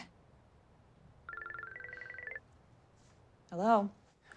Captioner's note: phone rings